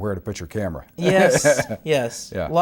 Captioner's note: laughter